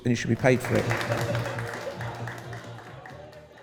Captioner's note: applause